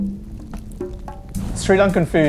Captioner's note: fire crackling